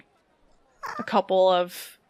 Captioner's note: squeaks